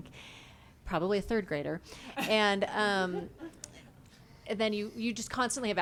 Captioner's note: laughs